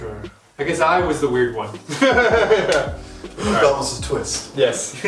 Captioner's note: laughing